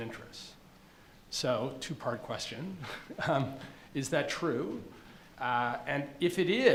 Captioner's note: chuckles